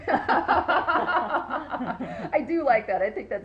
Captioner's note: laughing